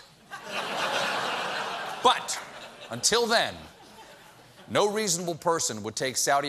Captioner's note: laughter